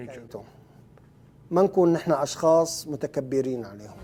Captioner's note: speaking Arabic